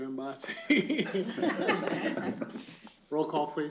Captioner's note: laughter